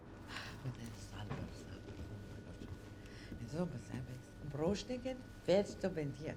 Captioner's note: woman speaking unknown foreign language